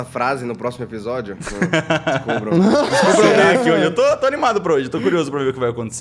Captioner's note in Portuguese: risada